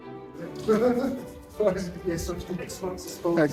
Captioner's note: Harry laughs